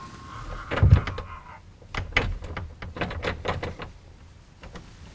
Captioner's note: door handle rattles